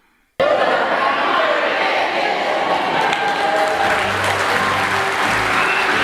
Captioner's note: audience responds; applause